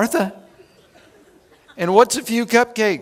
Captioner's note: chuckling